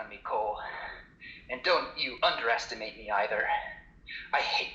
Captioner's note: heavy breathing